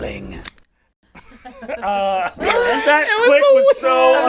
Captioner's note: gun cocks quietly; all laugh